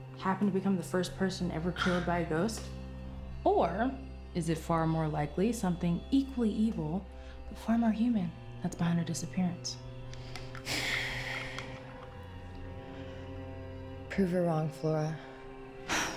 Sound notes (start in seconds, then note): 10.6 Claire sighs